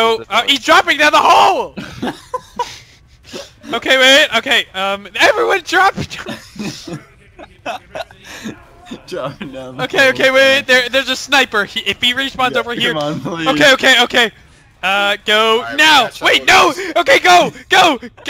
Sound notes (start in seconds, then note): 1.7 mild laughter; 5.9 slight laughter